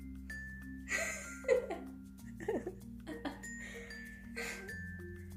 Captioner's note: laughing